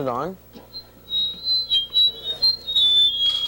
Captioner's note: audio feedback